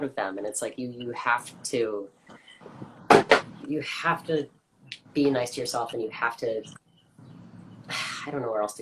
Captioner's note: painting hits the floor